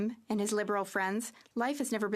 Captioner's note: speaking French